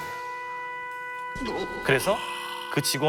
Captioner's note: gasping